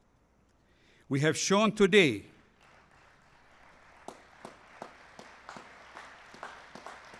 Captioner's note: applause